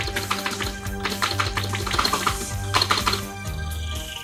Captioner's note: frantick Claking of Keys